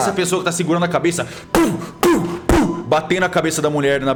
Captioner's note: pow pow pow